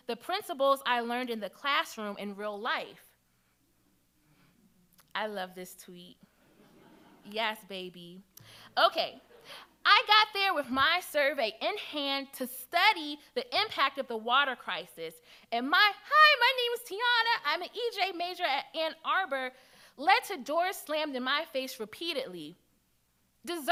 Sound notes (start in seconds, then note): 6.4 audience chuckles